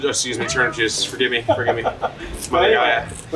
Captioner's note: laughs